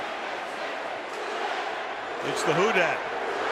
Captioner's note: crowd chanting